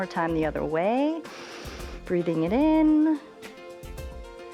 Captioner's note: inhales